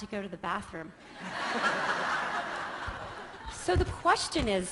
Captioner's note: laughter